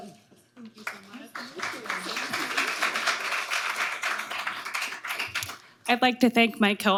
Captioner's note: audience applauding